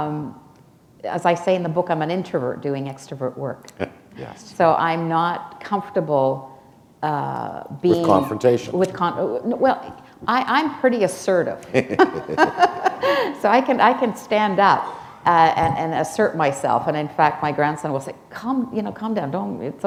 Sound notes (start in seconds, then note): 0.1 chuckle; 11.6 chuckle